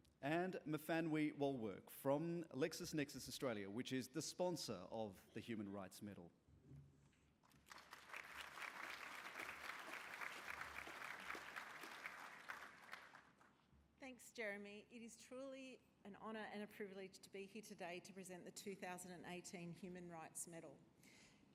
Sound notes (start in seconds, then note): 7.4 applause